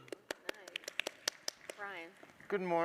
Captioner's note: panelists applaud